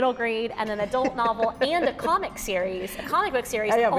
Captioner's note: laughs